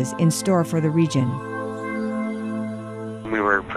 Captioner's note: phone interview in English